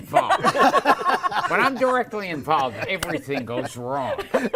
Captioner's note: laughter